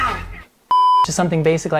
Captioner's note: beep